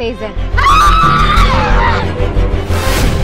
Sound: shouting; scary music

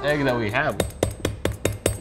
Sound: tapping

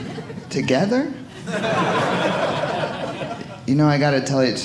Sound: audience laughing

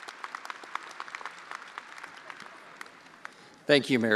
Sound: attendees applauding

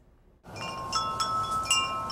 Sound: / : bells chime

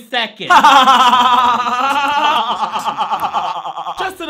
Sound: laughing

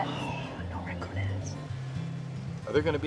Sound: sighs

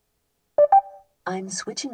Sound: car beeps

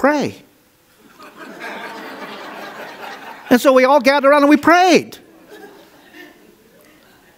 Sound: audience laughs

